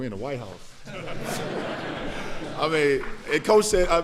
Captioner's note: laughter